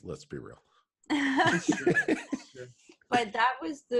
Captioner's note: laughter